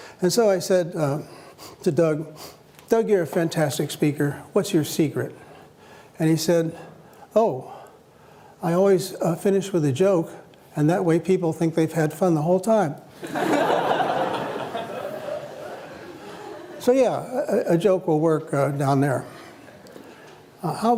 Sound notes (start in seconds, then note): 13.2 laughter